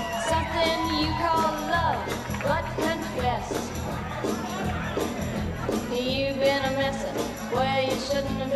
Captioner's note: cheers